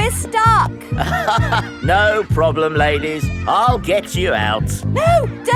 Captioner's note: chuckles